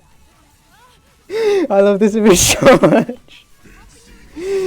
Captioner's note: laughing